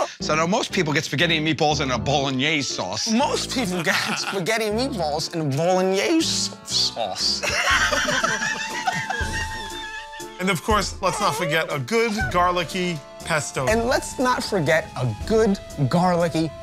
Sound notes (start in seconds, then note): 7.4 laughter